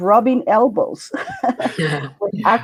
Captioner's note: laughter